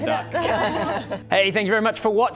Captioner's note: laughing